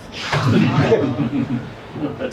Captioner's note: laughter